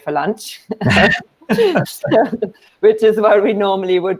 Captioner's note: laughs